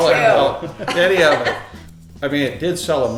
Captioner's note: laughing